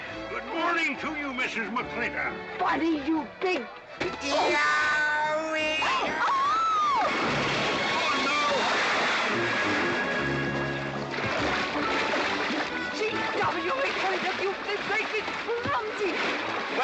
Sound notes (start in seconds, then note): 3.9 smack; 4.1 GW yelling; 5.9 Katherine screaming; 8.7 splash